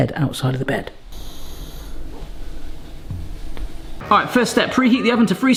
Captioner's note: Boston snores softly